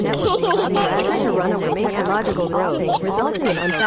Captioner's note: laughing